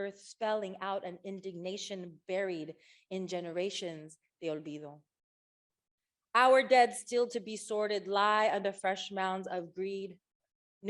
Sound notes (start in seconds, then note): none